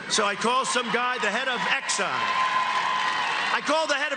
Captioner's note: cheering